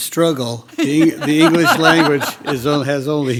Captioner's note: group laughs